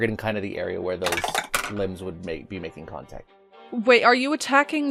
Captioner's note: Dice tower clacks